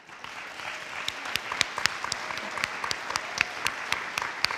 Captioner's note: audience applauding